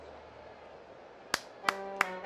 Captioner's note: clapping